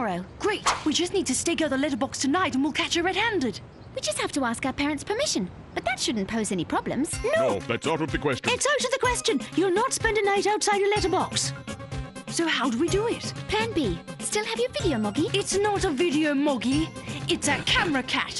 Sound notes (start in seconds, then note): none